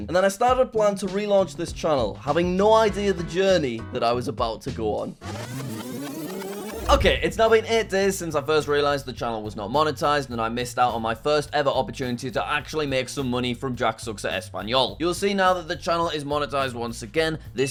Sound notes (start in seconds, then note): 5.2 rewind sound effect